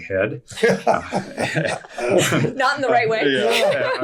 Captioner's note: laughing